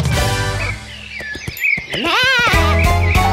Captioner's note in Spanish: Sonido de pajaritos; Música alegre